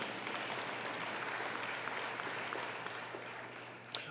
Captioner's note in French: Applaudissements